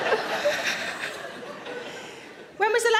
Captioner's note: Sarah laughs; audience laughs